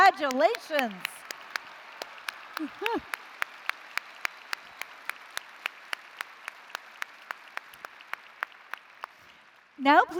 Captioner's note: applause